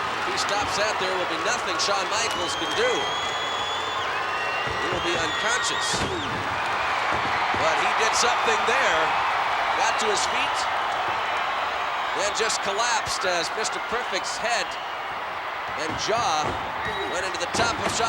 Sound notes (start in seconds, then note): 0.0 audience cheering; 6.1 bodies thud; 7.2 audience cheering